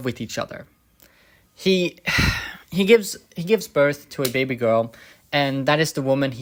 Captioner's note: sigh